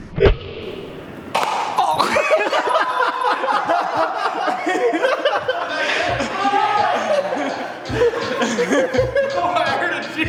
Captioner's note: laughter